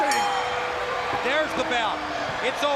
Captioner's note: bell ringing